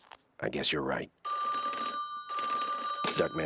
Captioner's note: ringing